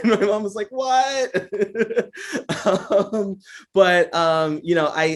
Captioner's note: laughs